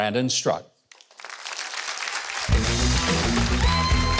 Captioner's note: audience clapping; upbeat music